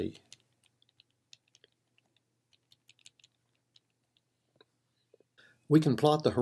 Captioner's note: typing